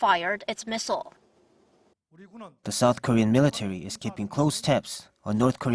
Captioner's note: Korean